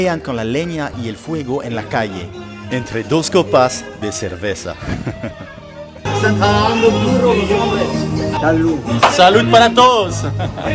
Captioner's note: laughter